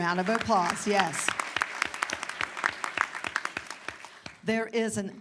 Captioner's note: applause